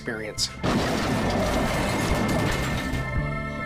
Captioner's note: car crashing